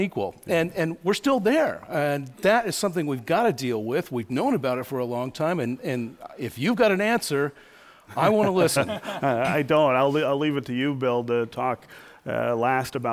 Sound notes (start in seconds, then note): 8.2 laughter